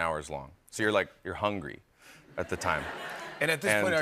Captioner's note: laughter